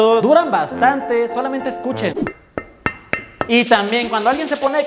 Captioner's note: sound of block being hit